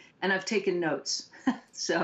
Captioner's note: laughter